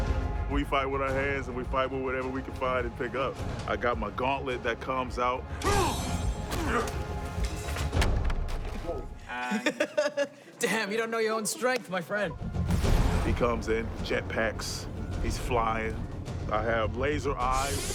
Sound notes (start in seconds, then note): 6.5 both grunting; 8.9 Wan laughs